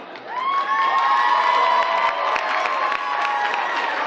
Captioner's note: cheering and clapping